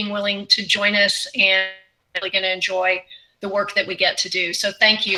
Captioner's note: audio glitch